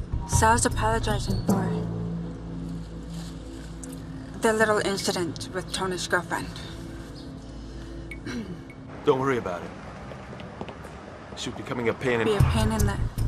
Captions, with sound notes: SAL’S APOLOGIZING FOR... THE LITTLE INCIDENT WITH TONY’S GIRLFRIEND. [ Clearing of throat ] DON’T WORRY ABOUT IT. SHE WAS BECOMIN’ A PAIN... "...A PAIN IN THE..."